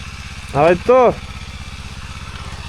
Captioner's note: German